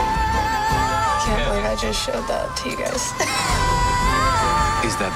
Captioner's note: laughs